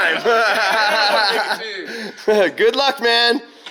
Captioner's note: laughs